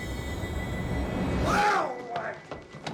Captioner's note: shouting